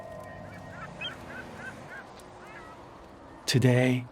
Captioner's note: seagulls squawking